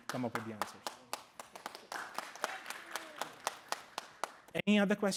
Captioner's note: applause